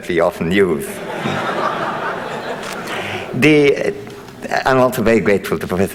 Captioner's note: audience laughing